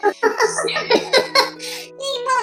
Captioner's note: laughs